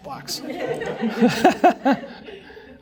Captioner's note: laughter